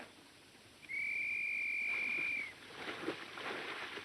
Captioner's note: whistle blowing